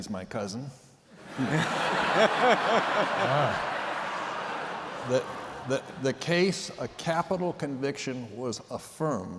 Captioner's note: laughter